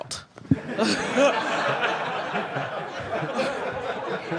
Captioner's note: audience laughing